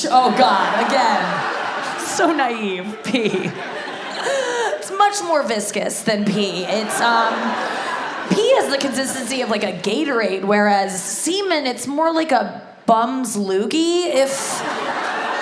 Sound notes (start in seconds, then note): 0.0 audience laughs